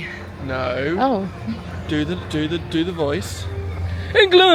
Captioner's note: stammering